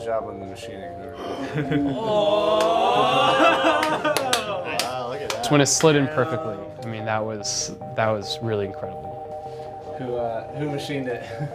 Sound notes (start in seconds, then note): 1.7 gasps, applause